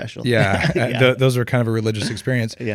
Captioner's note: laughs